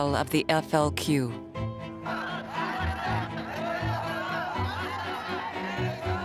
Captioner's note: crowd chanting